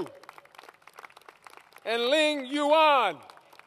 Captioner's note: applause